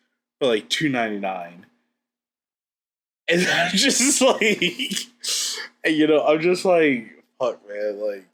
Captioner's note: laughs